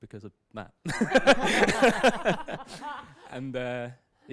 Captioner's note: laughter